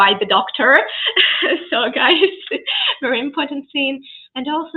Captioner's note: laughs